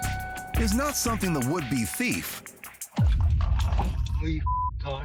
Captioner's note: beep